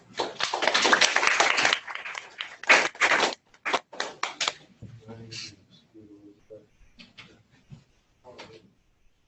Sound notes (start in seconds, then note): 0.1 applause